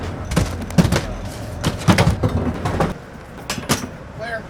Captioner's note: coolers and cases clanking